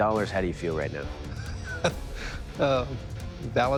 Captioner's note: laughs